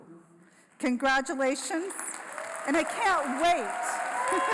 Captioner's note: brief laughter